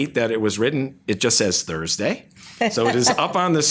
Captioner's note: laughs